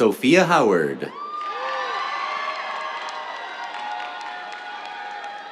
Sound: cheers, applause

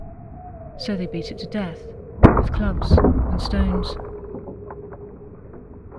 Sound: breaking sounds

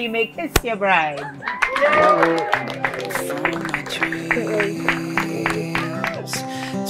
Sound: applause

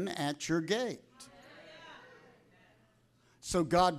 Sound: congregation cheering

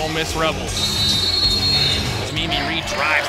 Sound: whistle

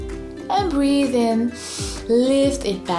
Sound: breathes in deeply

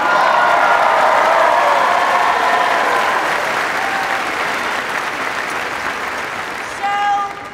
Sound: cheers and applause

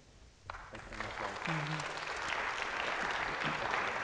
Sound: audience clapping

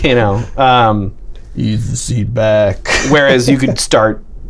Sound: laughter

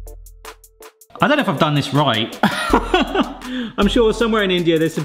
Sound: gentle music; laughs

